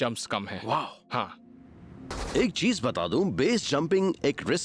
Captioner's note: narrating